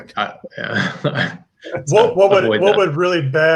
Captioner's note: chuckles